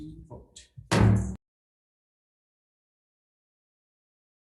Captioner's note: gavel bangs